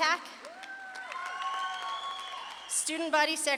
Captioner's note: audience claps and cheers